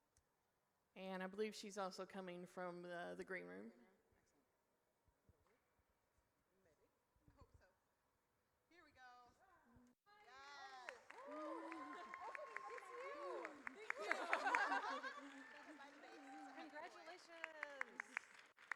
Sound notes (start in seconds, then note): 10.2 audience cheers; 18.6 applause